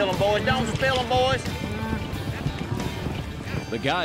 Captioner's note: cattle moo